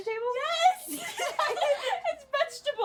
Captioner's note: laughter